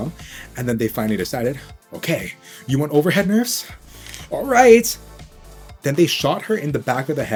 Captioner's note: cracks knuckles